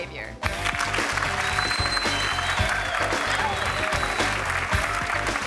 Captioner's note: audience clapping and cheering